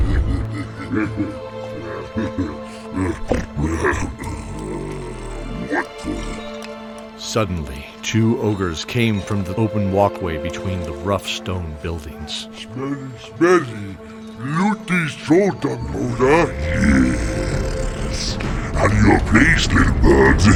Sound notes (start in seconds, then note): 0.0 laughing; 17.2 sneering